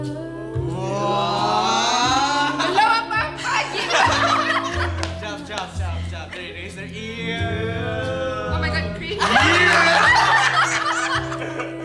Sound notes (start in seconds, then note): 7.4 everyone laughs